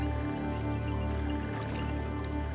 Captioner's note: elephant rumbles; animals calling